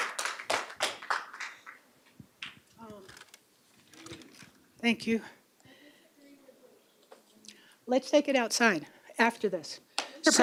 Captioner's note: applause